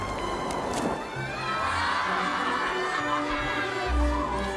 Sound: Lost Boys laughing

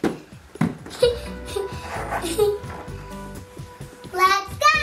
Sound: chuckles

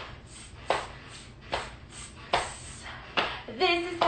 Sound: hissing; slapping

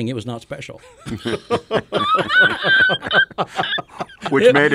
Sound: friends laughing

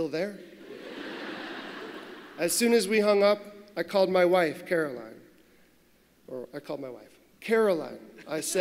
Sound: laughter

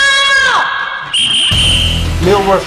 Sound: whistle blows

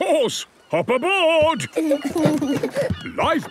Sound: both giggle

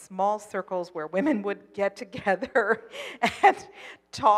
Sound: laughs

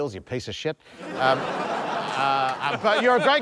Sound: laughter

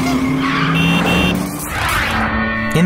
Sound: car horn sounds

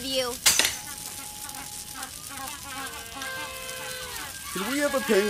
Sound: happy penguin noises

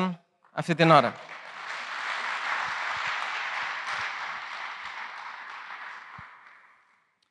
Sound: applause

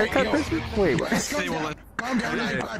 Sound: laughs

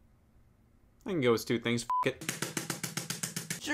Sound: beep

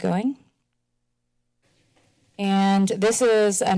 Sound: silence

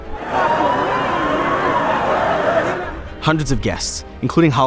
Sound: sirens wail

